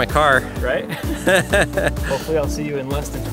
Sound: laughs

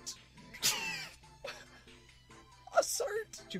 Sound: laughs

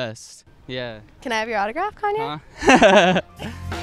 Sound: awkward laughs

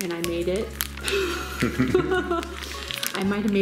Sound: laughing

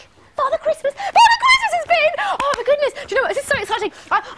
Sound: gabbering

